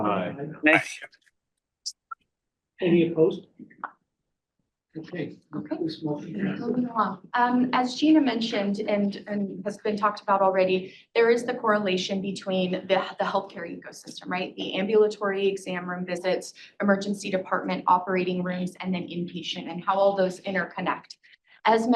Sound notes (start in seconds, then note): 5.7 speaking softly